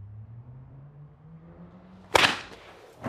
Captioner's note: loud bang